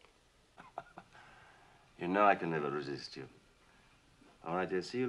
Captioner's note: chuckling